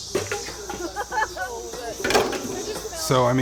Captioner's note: laughter